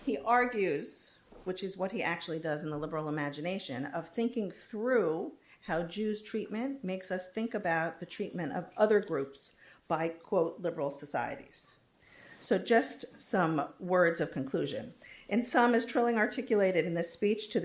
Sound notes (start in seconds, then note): none